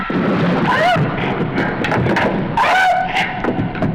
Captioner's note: gasping